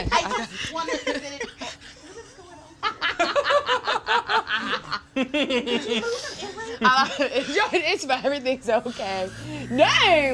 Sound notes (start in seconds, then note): 3.8 laughing